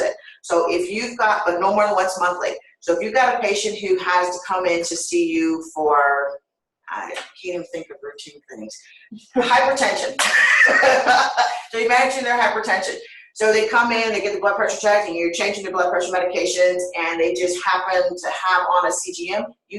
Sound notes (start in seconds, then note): 10.2 laughter